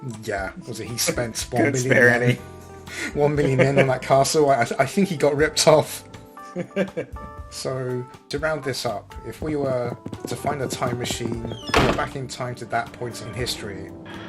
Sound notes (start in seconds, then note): 6.3 laughs